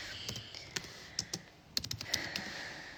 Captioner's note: typing